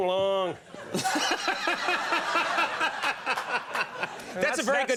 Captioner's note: Conan laughs